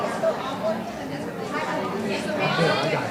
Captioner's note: people chatter indistinctly